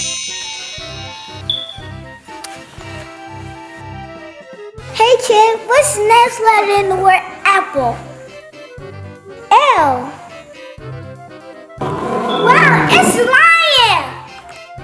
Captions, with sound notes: (light jazz music) - Hey kids, what's the next letter in the word apple? L! (lion roaring) Wow, it's a lion!